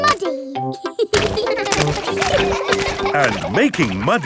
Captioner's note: children laughing